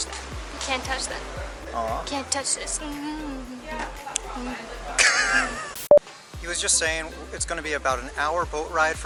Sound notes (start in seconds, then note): 2.5 humming and dancing along to " "